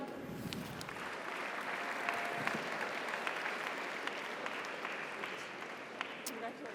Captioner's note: audience applauds; audience cheers